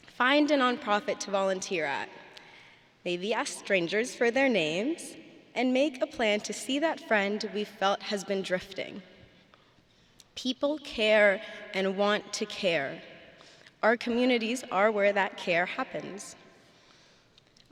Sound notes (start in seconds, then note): none